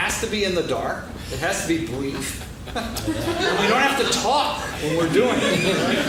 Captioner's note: laughing